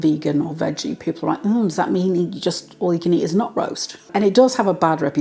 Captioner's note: sarcastic tone